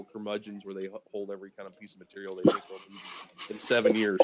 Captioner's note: speaking faintly